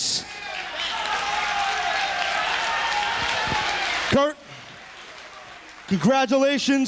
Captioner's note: applause